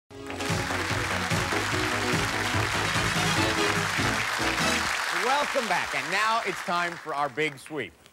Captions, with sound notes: (cheers and applause) -Welcome back and now it's time for our big sweep.